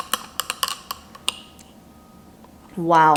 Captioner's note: spoon clangs